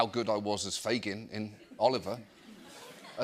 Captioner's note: laughter